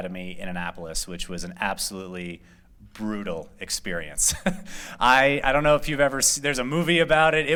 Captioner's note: laughter